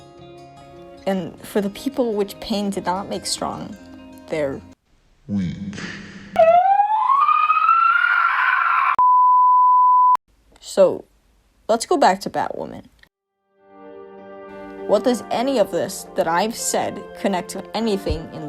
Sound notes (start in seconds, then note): 4.5 confused screaming